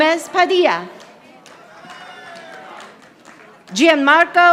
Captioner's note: audience applauding